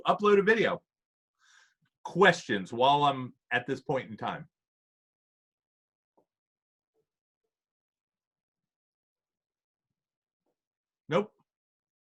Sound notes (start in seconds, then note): 8.0 silence